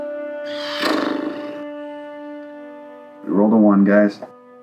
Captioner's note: blows raspberries